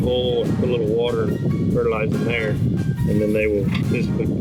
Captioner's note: wind howling